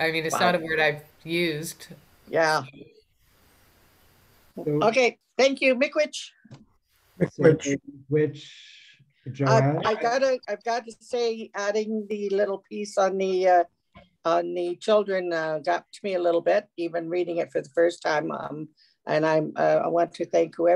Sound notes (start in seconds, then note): 6.2 foreign language; 7.6 speaking in foreign language